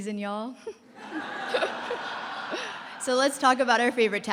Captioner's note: laughter